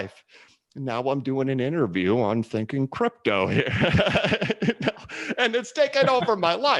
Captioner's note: laughs